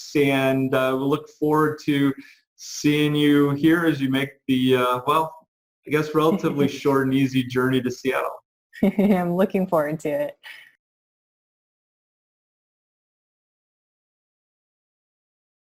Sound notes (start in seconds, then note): 8.8 giggles